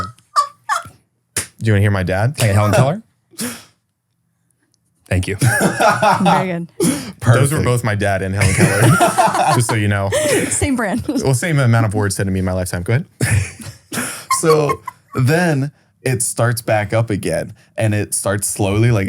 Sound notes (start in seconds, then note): 0.0 continues laughing; 0.3 laughs; 5.3 laughs; 8.4 group laughing